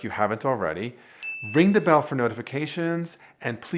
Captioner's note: bell chimes